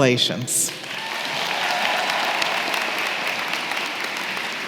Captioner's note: applause